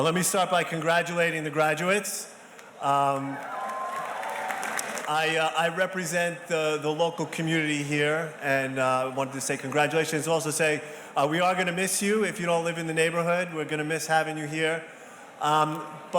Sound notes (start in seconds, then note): 2.8 audience cheers softly